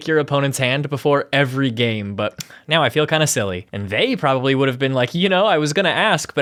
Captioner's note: tisk